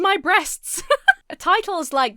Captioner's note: Emma laughs